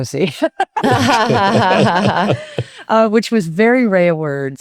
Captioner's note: both laughing